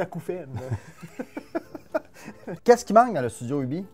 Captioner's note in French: rire